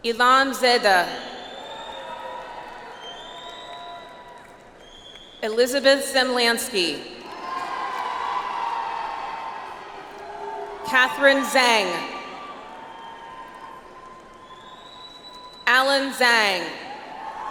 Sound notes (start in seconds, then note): 1.6 audience applauds; 7.2 audience applauds; 12.4 audience applauds; 17.1 audience applauds